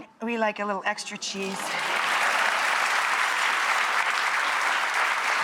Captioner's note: audience applauds